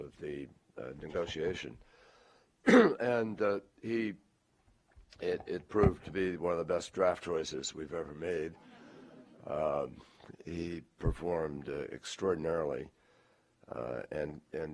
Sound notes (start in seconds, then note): 8.6 laughter